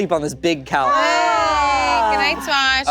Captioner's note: group exclaiming